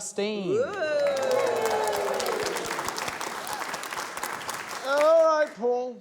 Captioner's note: cheering, applause